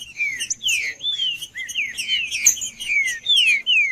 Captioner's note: trinca ferro cantando